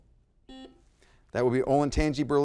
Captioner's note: buzzer blaring